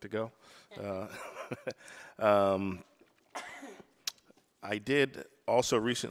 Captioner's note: laughs